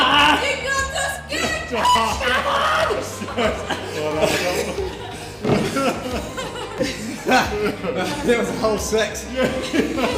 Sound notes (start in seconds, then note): 1.9 screaming; 3.8 laughing